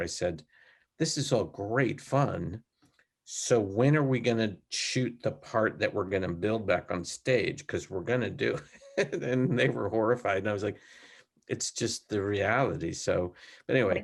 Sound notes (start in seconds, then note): 8.6 laughs lightly